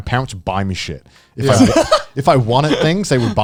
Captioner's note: chuckling